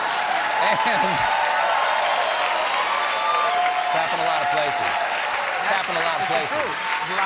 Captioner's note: cheers and applause